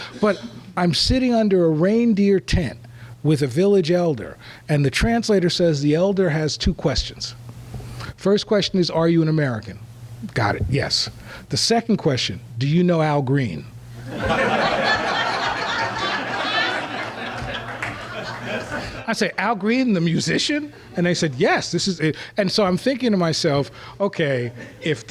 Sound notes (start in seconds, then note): 14.0 laughter